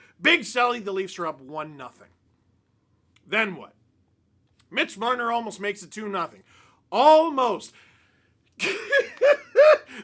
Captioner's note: laughter